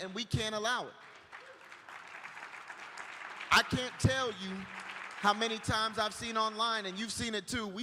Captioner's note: applause